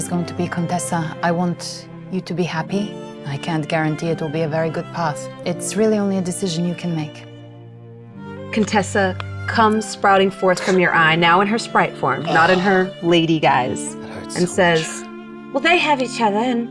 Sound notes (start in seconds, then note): 10.5 squelching; 12.2 grunting